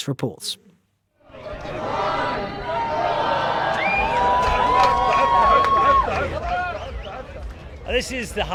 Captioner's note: crowd cheering